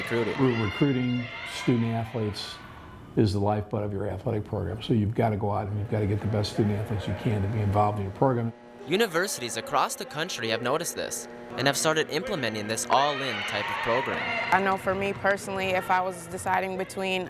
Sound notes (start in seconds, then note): 8.9 voiceover